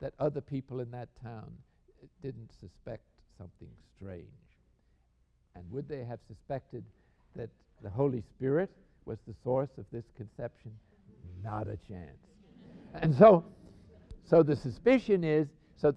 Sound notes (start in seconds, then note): 10.4 laughter